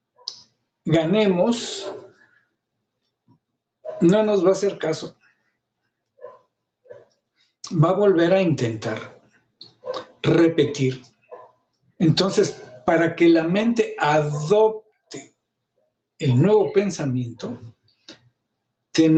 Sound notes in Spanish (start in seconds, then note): 9.9 carraspeo